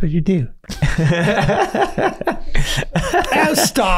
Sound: all laughing

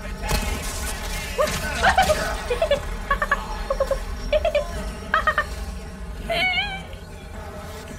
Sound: random panicky noises

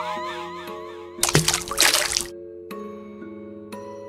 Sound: splash

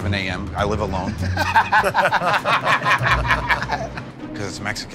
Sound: laughter

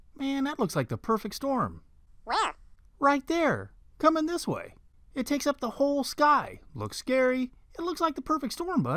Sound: man's voice

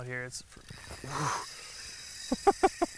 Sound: exhales; laughs

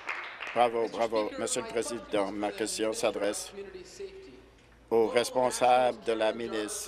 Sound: applause

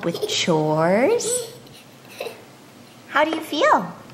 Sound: giggling

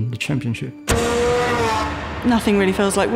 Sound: engine revving

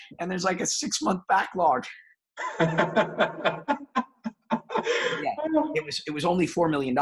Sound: heavy laughing

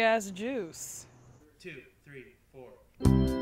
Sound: voiceover

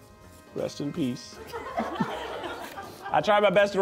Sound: crew laughing

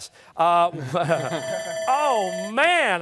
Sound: timer sounding

